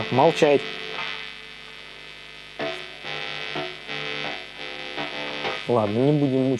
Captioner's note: Hum sound